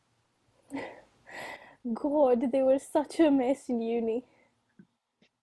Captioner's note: laughs